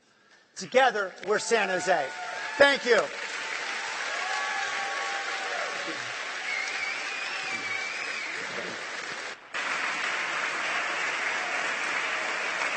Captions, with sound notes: [APPLAUSE] >> LET'S GIVE OUR MAYOR ANOTHER ROUND OF APPLAUSE! [APPLAUSE]